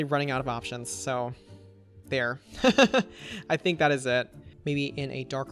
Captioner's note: laughs